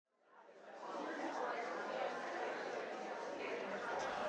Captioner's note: audience chattering